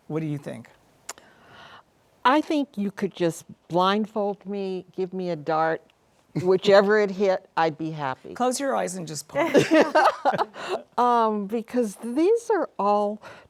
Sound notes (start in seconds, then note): 9.4 laughter